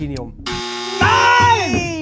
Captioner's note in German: Buzzer